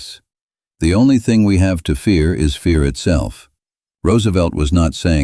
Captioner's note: speaking with conviction